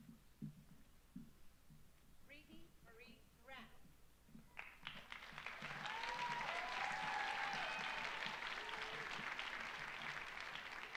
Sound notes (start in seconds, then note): 4.5 audience applauding; 5.3 audience cheering